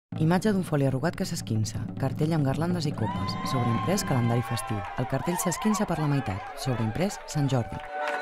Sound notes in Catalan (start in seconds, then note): 3.0 Aplaudiments i aclamacions